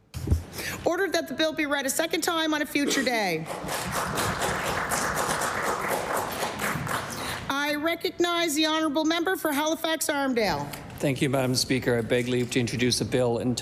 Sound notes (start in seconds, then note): 7.3 applause